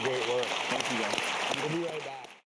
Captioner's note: audience clapping